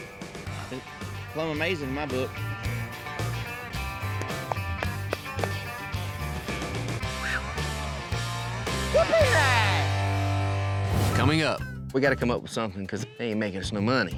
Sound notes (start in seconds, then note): 4.1 patting horse; 6.9 exhales